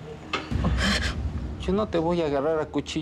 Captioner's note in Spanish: sollozos